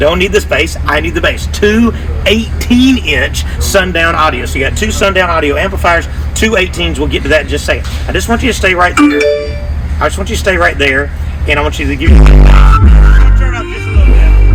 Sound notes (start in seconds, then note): 9.0 cell phone chimes; 12.0 loud bass music plays; 12.2 music drowns out speaker